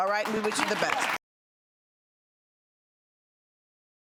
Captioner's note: applause